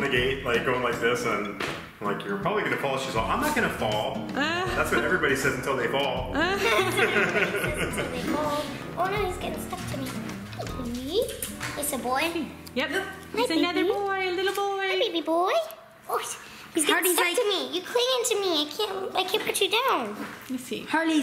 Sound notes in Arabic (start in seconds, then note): 6.4 ضحك